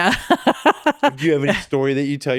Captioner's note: laughs